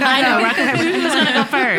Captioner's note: laughing